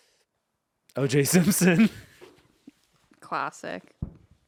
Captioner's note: laughing